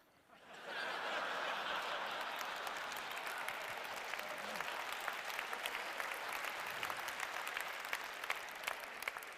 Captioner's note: laughter; applause